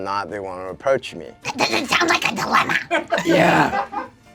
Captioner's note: screeches